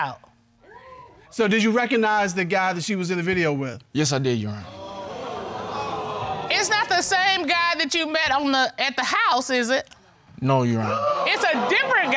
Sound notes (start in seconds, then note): 4.6 audience exclaiming